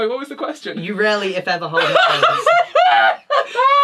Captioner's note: laughs